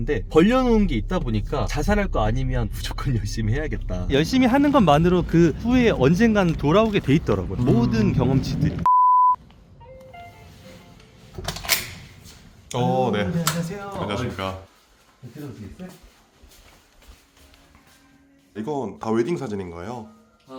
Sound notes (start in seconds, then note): 9.9 door bell